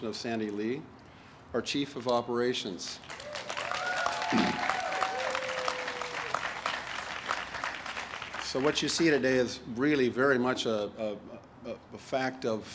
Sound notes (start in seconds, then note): 3.0 audience applauds and cheers